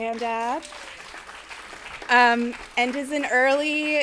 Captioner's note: attendees applauding